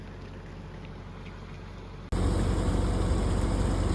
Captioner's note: water splattering